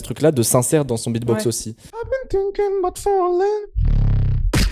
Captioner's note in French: beatbox